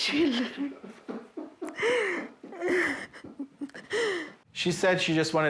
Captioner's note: family crying